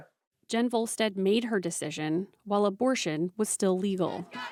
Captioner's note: voice-over